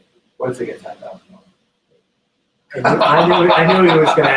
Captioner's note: laughs